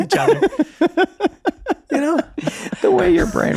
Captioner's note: laughing